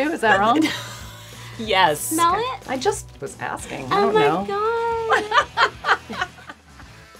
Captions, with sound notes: Is that wrong? [laughing] YES! -Smell it? -I just was asking. Oh my god! [laughing]